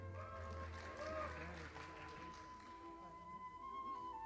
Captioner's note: audience applauding